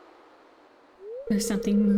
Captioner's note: squishing sounds & shadow brute howl